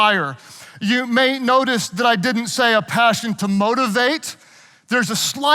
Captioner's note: none